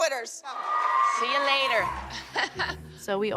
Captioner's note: laughs